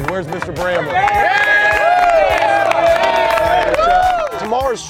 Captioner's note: cheers